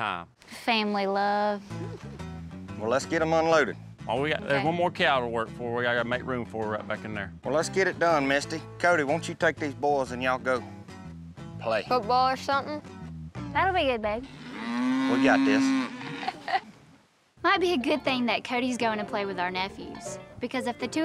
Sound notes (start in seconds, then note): 16.2 chuckles